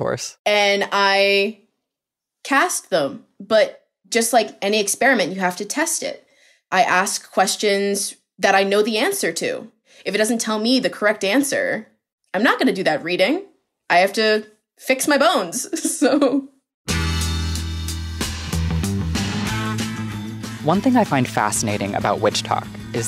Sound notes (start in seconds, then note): 16.8 laughing; 16.9 upbeat music